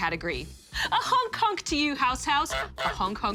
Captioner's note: honk! honk!